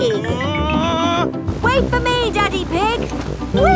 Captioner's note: screaming